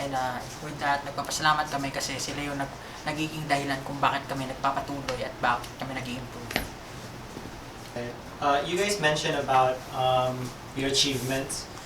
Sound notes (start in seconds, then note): none